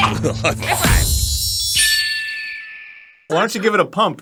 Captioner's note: distant cries of a red-tailed hawk